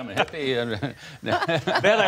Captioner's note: laughter